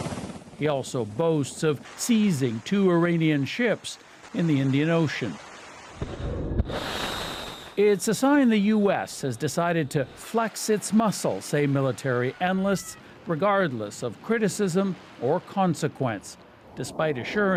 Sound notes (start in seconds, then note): 7.8 explosion